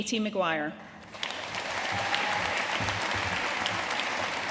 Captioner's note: audience applauding